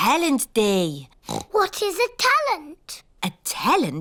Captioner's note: oinks